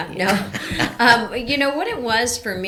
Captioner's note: both laughing